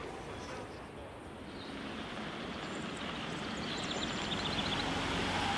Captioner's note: birds chirping